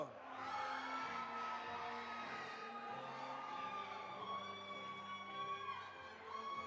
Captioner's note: audience applauding; audience cheering